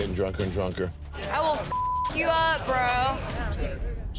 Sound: beep

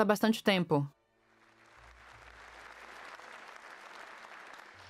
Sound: applause

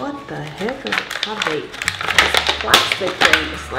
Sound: plastic ripping

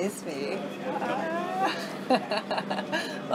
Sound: laughs

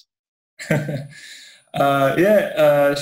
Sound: laughs

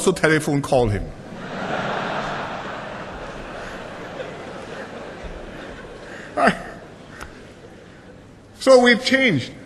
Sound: laughter

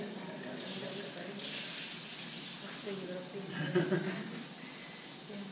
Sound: mumbling and laughter

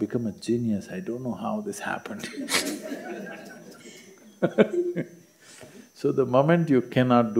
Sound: laughter

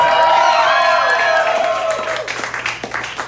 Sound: applause

